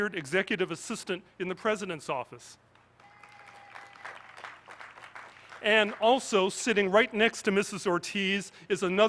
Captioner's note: applause